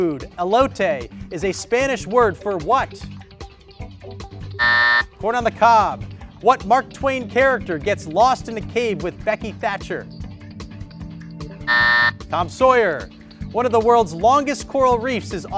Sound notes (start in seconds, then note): 4.6 timer sounds; 11.6 timer sounds